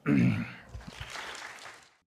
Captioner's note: applause